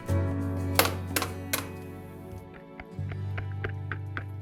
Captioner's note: egg cracking